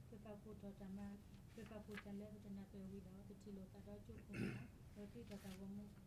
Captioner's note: speaking in foreign language